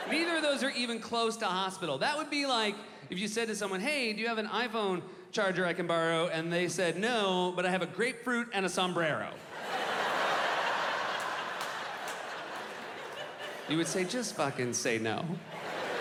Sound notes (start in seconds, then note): 9.4 audience laughing